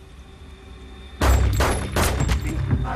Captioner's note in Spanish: Disparos